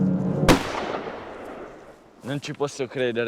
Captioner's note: gunshot